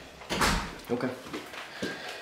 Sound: door opening

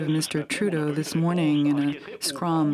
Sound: speaking French

